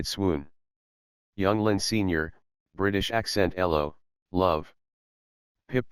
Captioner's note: British accent